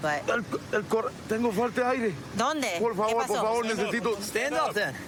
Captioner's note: speaking spanish